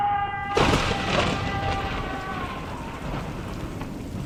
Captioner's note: roar of thunder